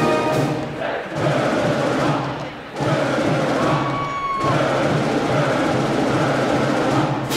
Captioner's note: crowd chants; processional brass band music